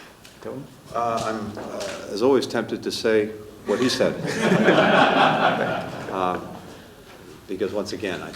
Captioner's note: laughter